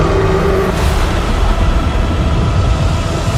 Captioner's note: roaring; lightning